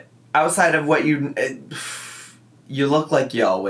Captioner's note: sighs